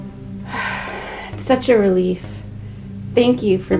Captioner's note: sighs